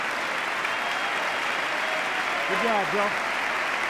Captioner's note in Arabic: تصفيق